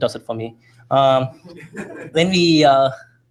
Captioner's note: laughter